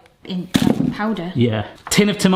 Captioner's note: ginger crashes